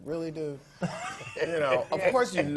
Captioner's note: laugh